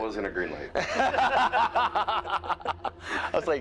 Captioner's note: both laugh